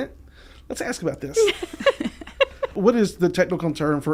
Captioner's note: laughing